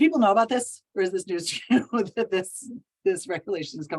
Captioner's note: chuckles